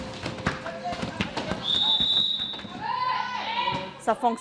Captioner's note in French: coup de sifflet